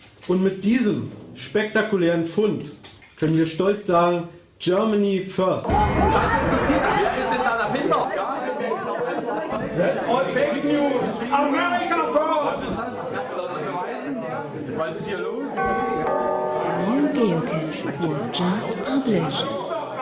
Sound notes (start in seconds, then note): 15.5 bell sounding